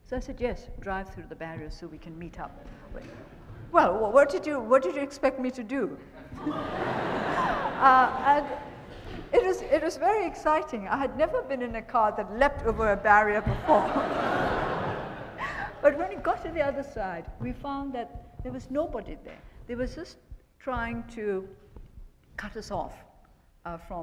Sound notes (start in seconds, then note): 6.1 attendees laughing